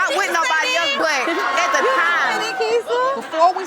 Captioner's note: crowd gasping